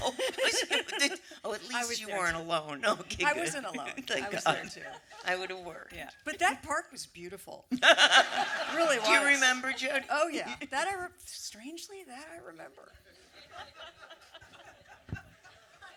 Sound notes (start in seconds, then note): 7.8 audience laughter; 13.4 light laughter